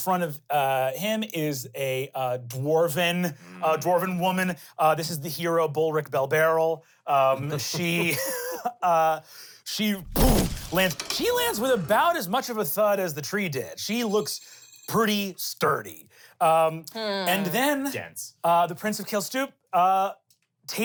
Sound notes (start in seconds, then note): 7.1 laughs